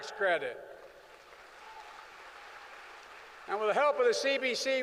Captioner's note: applause